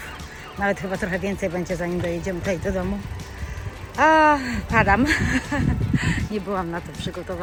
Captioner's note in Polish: śmiech